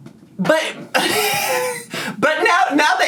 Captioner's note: laughs